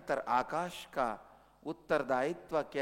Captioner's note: hindi